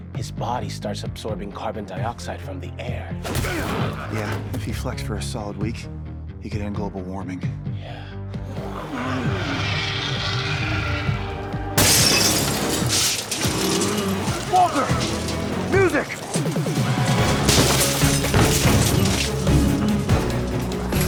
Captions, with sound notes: his body starts absorbing carbon dioxide from the air. - Yeah, if he flexed for a solid week, he could end global warming. - Yeah. (intense music continues) (glass shatters) - Walter, music! (intense music continues)